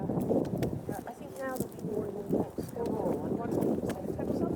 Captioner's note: sounds of people ambling